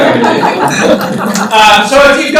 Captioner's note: laughter